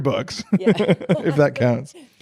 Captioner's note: laughs